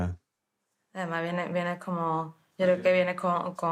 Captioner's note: speaking Spanish